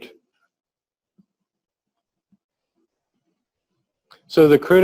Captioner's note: pause